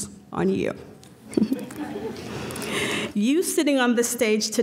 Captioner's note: laughter